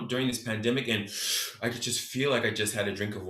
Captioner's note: inhales deeply